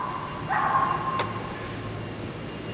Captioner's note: dog barking